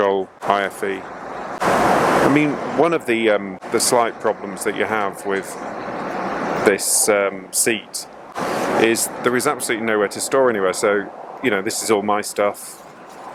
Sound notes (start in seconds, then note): 1.5 air whooshes